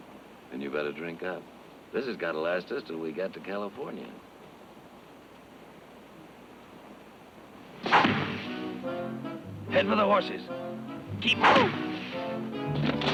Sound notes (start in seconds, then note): 7.8 arrow thunks; 11.2 arrow thunks; 12.9 exciting music